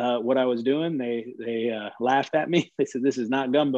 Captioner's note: laughing